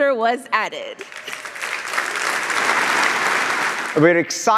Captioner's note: audience applauding